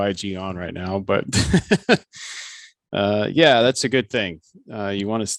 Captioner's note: laughs